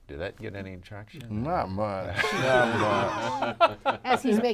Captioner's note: laughing